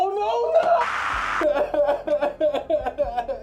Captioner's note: crying sounds